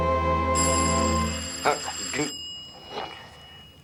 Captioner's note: doorbell rings